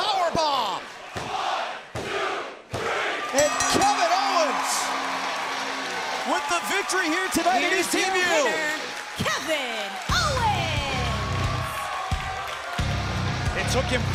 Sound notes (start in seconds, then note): 3.3 bell ringing; 11.6 crowd cheering